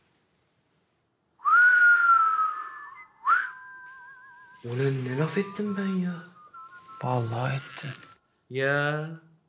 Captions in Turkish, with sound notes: (Islık sesi) Ulan ne laf ettim ben ya. Vallahi ettin. Yaa...